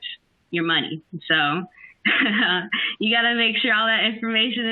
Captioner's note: laughs